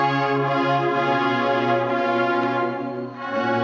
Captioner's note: none